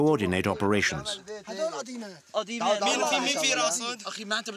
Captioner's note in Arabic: الصوت المنطوق باللغة العربية